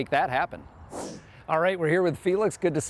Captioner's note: whoosh sound